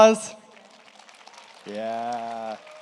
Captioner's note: audience applauds